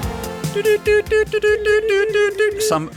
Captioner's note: morse Code noises